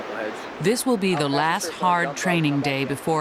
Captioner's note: voiceover